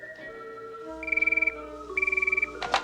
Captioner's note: beep beep